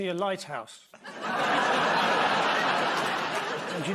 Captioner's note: laughter